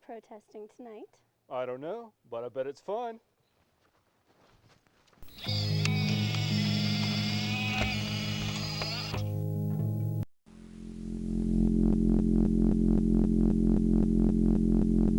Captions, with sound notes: - What are we protesting tonight? - I don't know, but I bet it's fun. (eerie music) (wheelchair whirs) (container hums)